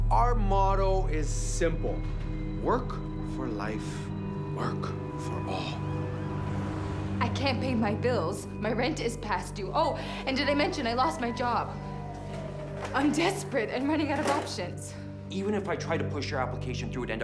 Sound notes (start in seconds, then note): 10.5 siren wailing